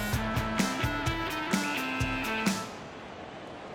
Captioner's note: whistle blows